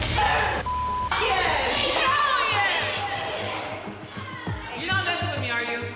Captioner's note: beep